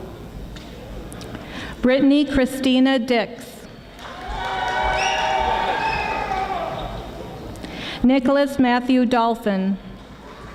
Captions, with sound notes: Brittany Kristina Dix. (audience applauding) Nicholas Matthew Dolphin.